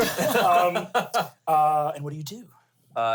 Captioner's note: laughs